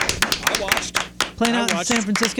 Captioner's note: clapping